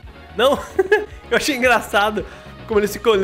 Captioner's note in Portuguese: risos